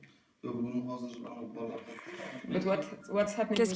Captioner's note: uzbek spoken language